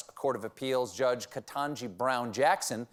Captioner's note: none